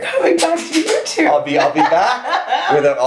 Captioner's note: laughs